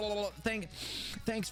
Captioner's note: sniffing aggressively